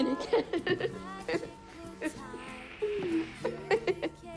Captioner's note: casey laughing